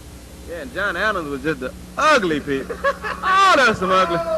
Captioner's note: laughter